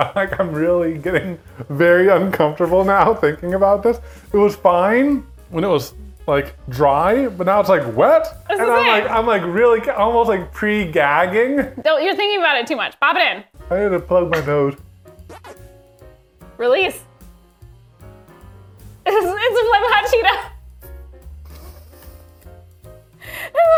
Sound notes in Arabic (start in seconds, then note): 15.4 أصوات صافرات لعبة فيديو; 17.6 موسيقى هادئة; 20.8 موسيقى هادئة